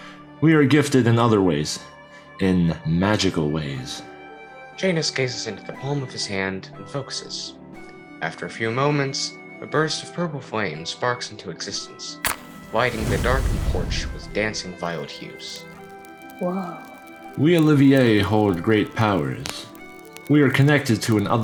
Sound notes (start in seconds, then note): 12.2 fire go fwoosh; 16.1 fire crackling throughout